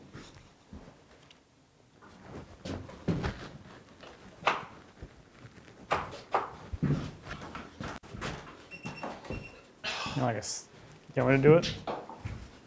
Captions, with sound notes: - (groans) - Want me to do it?